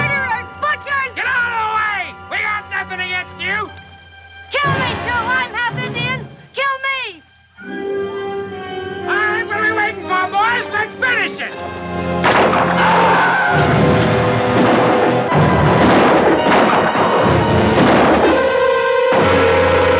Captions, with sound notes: Murderers, butchers! - Get out of the way! We got nothin' against you! - Kill me, too, I'm half-Indian, kill me! - Alright, what're we waitin' for, boys, let's finish it! (gun fires) (Apache screams) (guns fire)